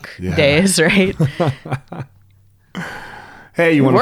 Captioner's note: laughs